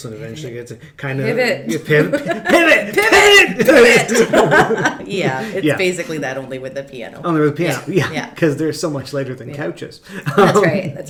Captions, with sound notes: And eventually gets a-- - Pivot! - Yeah, piv. Pivot! Piv! - Pivot! Pivot! (all laugh) - Yeah, it's basically that only with a piano. - Only with a piano, yeah. 'Cause they're so much lighter than a couch is. (laughs)